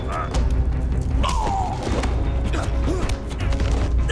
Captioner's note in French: Gémiments